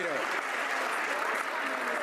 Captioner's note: some Applause